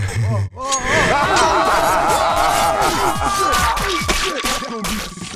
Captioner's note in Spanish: Coach se ríe; Payne grita